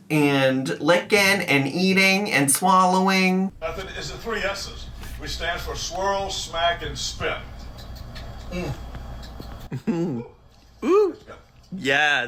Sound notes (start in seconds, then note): 7.6 man smacks lips